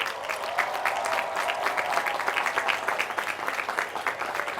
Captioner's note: applause